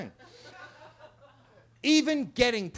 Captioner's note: attendees laughing